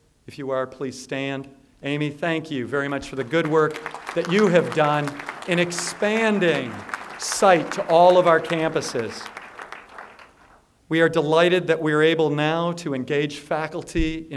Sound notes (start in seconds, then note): 9.8 applause